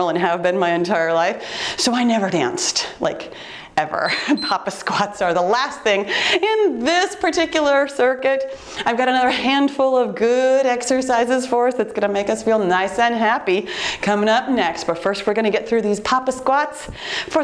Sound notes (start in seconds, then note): 4.0 timer peeps